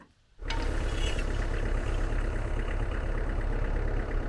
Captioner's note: engine idling